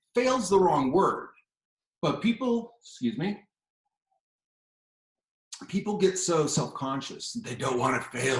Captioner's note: takes a drink